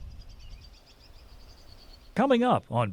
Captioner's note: birds chirping